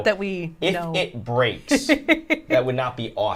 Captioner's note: chuckles